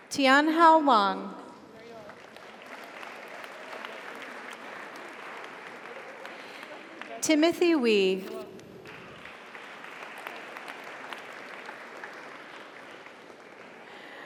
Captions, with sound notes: Tianhao Wang. (audience applauds) (audience cheers) Timothy Wee. (audience applauds) (audience cheers)